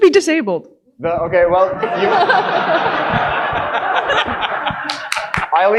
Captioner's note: audience laughing